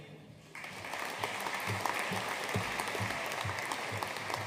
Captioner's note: audience applauding